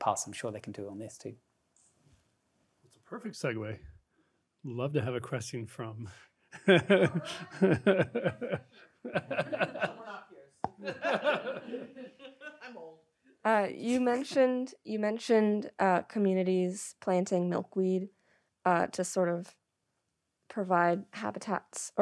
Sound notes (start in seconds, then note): 6.5 laughing